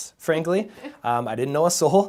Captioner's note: giggles